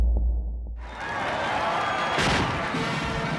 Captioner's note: cheering and applause